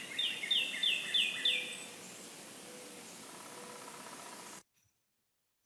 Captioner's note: recording of bird calls continues